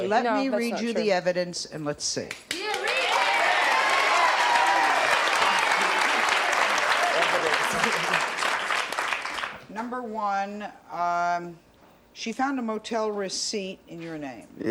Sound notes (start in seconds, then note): 7.6 applause